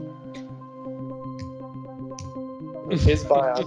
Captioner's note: game show music continues; clicking